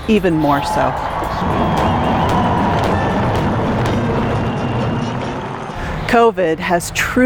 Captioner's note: crowd cheering; fireworks crackling